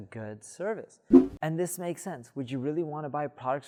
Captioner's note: air whooshing